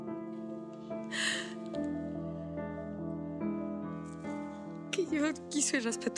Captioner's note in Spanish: Sollozos